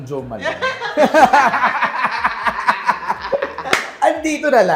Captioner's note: laughter